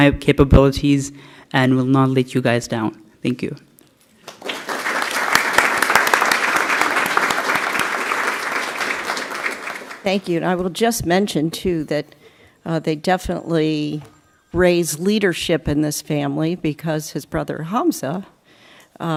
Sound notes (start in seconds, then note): 4.2 applause